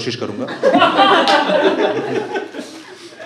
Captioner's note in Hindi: हँसना